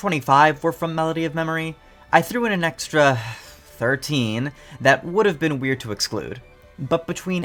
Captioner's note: sigh